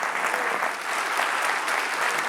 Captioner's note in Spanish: aplaudiendo audiencia